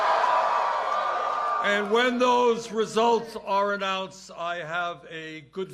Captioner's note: cheers and applause